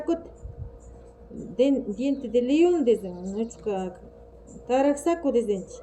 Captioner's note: in our language